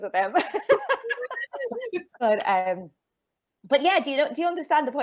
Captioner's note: laughing